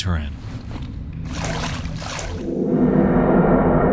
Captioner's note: water splashing; eerie music